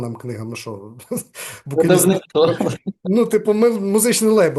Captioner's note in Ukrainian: сміється